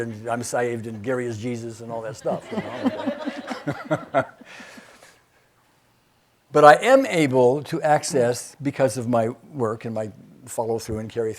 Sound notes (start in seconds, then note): 2.1 laughing; 2.2 audience laughing